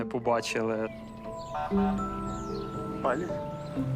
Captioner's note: horn beeps